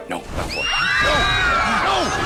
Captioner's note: students screaming